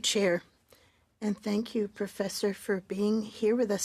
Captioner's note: speaking French